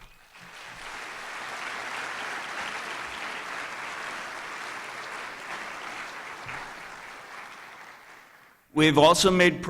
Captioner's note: applause